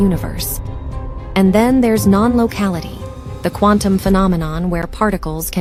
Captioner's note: voiceover